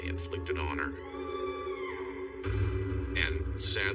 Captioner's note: screaming